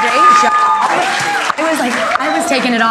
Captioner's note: audience applauding and cheering